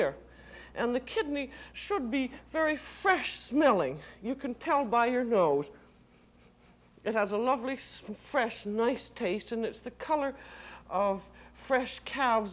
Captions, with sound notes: And the kidney should be very fresh-smelling. You can tell by your nose. (sniffs) It has a lovely fresh, nice taste, and it's the color of fresh calves' liver